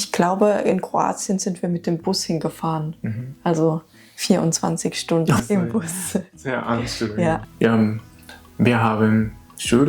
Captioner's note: laughs